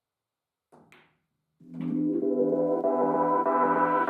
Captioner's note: balls clacking